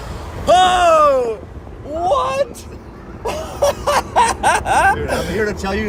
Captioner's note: laughs